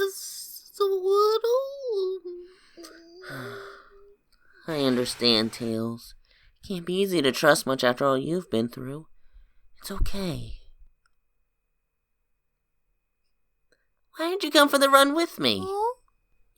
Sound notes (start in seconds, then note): 2.4 sighs